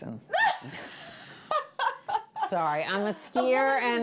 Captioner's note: laughing